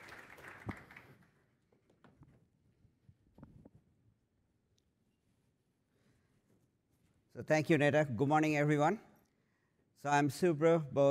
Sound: applause

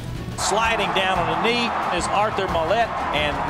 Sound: voiceover

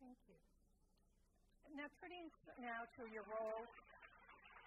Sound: applause

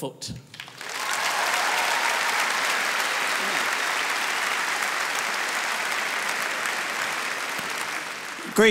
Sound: crowd cheers and applauds

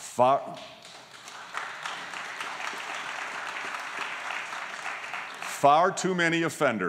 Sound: applause

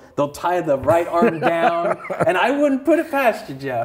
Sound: laughs

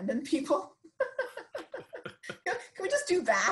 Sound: laughing

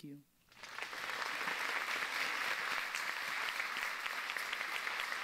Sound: audience applauds

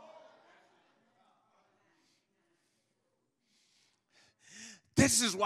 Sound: congregation muttering in agreement

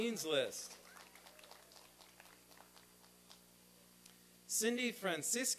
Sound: applause and cheering

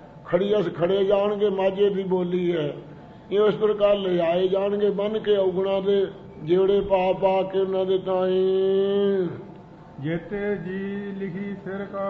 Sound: in Majhail Dialect

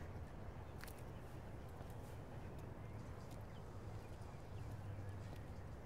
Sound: footsteps crunching softly

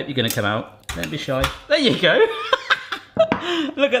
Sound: laughs

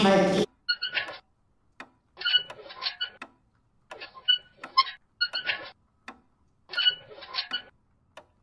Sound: wheels squeaking

